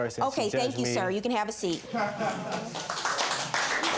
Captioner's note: man laughs; all applauding